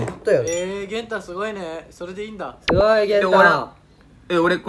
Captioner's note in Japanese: 棒読み